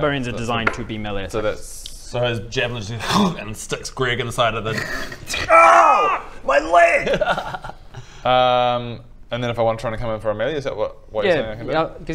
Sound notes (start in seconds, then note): 3.1 hccrrcgh